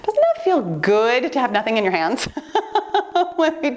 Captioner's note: laughing